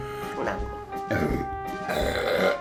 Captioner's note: burp